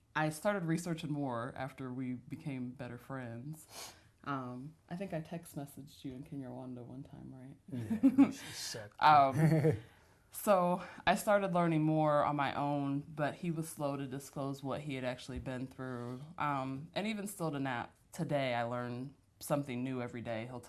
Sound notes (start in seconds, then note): 7.7 laughter; 9.3 laughs